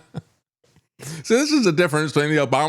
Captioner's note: laughs